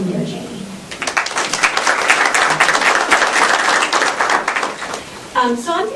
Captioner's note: applause